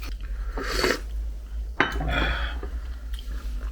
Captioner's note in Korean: 후루룹